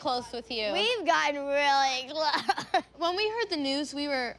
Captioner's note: laughing